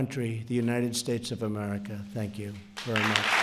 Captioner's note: applause